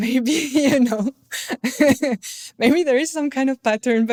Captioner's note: laughter